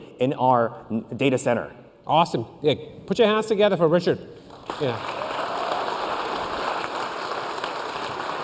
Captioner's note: applause